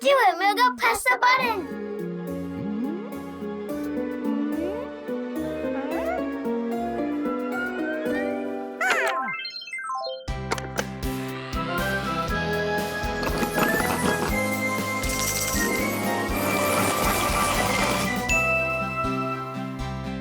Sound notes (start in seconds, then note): 4.8 suspenseful music; 9.3 music warbles; 10.2 bells chiming; 10.2 cheerful music; 16.2 box whirring